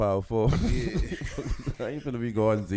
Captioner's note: laughing